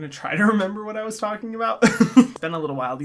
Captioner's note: laughs